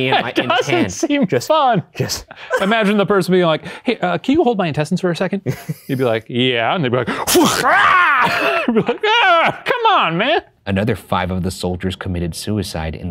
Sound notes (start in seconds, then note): 7.4 roaring